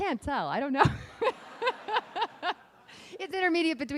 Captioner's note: laughing